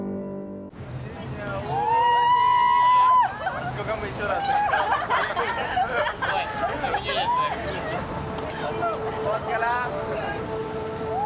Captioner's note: indistinct chatter